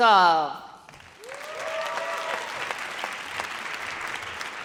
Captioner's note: audience cheers